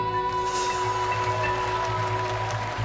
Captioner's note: audience applauding